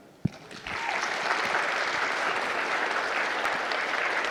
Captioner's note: audience applauding